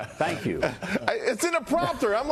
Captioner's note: laughter